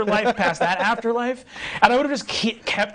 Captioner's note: laughing